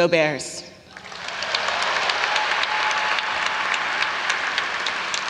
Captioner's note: audience applauds